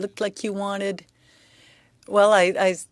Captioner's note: speaking French